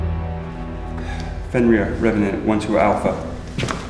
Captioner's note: sighs